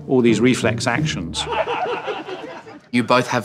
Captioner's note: laughing